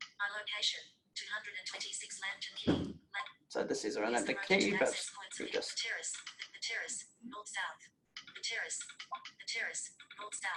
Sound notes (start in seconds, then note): 5.9 Google speaking disjointedly